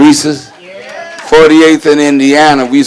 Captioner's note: crowd cheers